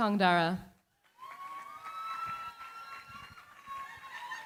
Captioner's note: cheering, applause